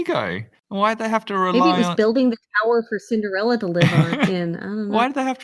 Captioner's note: laughs